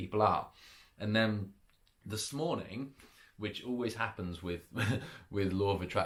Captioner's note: chuckles